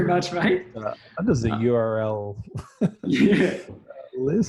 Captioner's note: both laugh